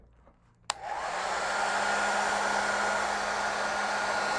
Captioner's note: dryer blows